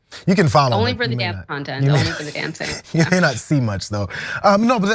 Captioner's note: laugh